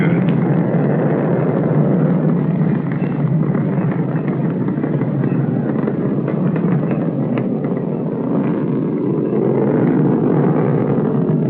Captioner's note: sounds of rocket engine